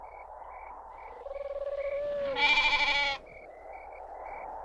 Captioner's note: wind whooshing; bird cooing